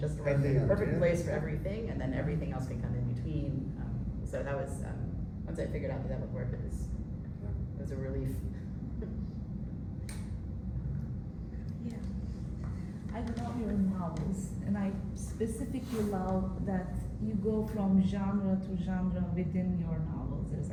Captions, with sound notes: just the perfect place for everything, and then everything else can come in between. So once I figured out that would work, it was a relief. [LAUGHS] Yeah. I love your novels, and I specifically love that you go from genre to genre within your novels.